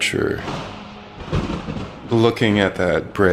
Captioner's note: tree falling